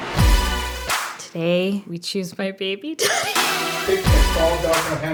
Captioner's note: upbeat music; laughs